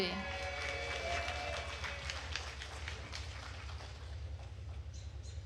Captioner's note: attendees cheering and applauding